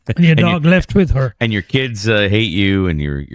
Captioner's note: uh